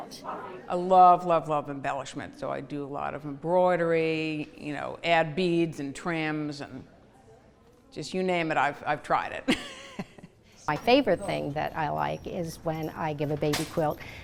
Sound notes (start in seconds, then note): 9.4 laughs